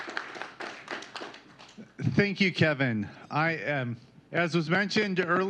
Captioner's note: applause